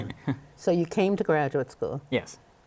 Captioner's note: laughter